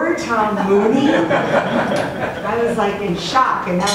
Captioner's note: audience laughs